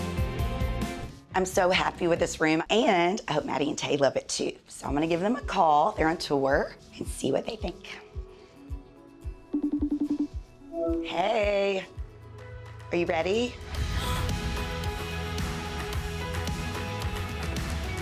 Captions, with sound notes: I'm so happy with this room and I hope Maddie and Tae love it too. So I'm gonna give them a call. They're on tour and see what they think. (phone ringing) Hey, are you ready? (gentle upbeat music)